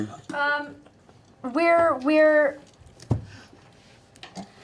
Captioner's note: none